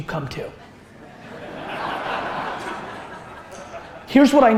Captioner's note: audience laughter